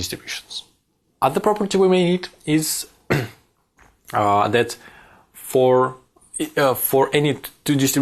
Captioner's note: cough